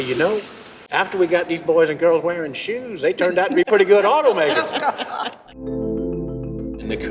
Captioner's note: laughter